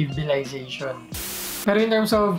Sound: static sound

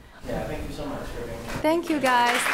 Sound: voiceover

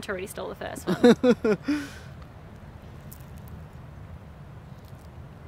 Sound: laughing

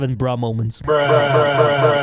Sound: bruh sound effect #2

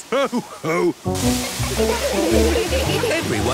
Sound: laughter

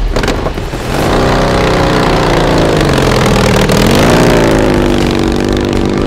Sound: motorcycle engine accelerating

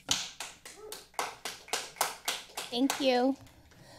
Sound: people applauding

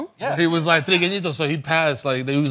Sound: spanish

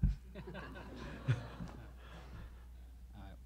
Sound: a few laugh

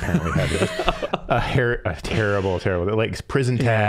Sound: laughing

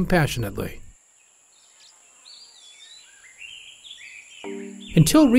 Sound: birds twittering

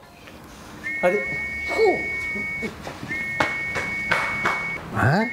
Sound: whistle

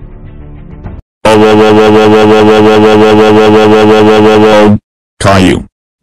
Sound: earrape

